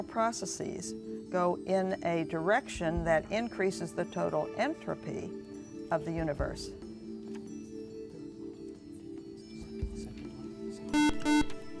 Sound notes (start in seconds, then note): 5.7 whispering; 10.9 buzzer